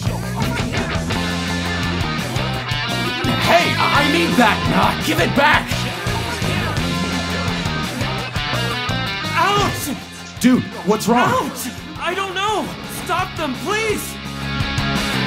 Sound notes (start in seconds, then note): 5.7 indistinct chatter